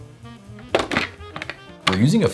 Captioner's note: lid snapping on